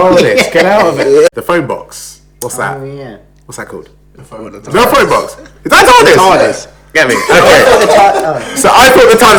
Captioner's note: laughs